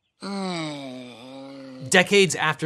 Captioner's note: groans